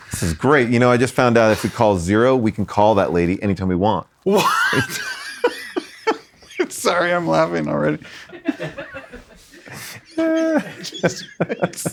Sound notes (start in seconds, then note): 4.2 both laugh; 8.0 laughs